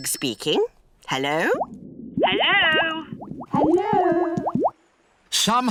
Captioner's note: voice echoes